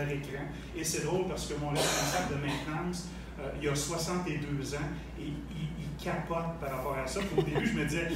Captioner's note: laughs